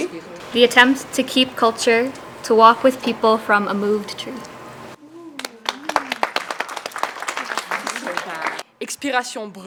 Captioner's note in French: Applaudissements